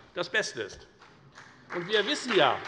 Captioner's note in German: Beifall bei der FDP